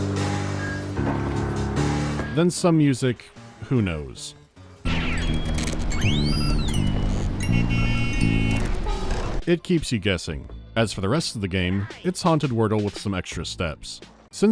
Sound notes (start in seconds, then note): 6.0 chaotic car horns and cartoon sound effects